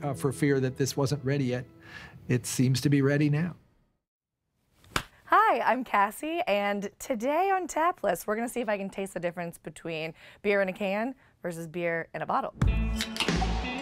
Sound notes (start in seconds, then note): 4.8 clapping loudly; 12.6 upbeat music